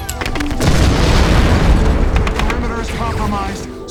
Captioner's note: bullets whizzing; explosion blasts